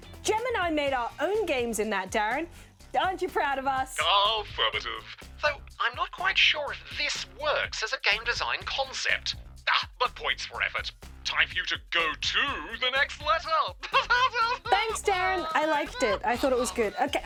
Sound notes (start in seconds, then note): 13.5 laughs